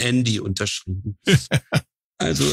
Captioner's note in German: Lachen